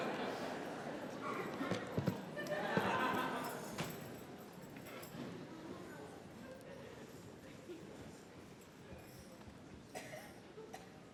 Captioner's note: laughter